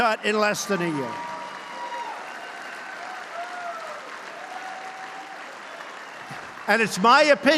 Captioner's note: applause